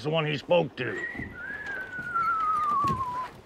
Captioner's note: Bill whistling